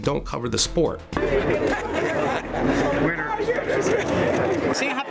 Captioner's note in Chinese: 笑聲